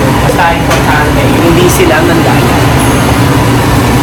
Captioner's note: indistinct chatter